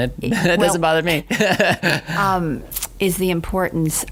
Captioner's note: laughs